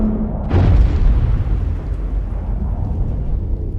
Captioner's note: woosh; explosion